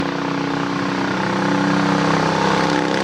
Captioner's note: engine roars